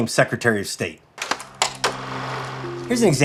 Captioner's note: film reeling